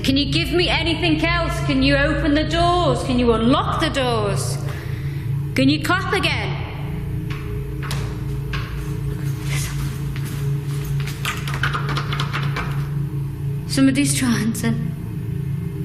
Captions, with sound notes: Can you give me anything else? Can you open the doors? Can you unlock the doors? Can you clap again? (rattling handle) Somebody's trying to--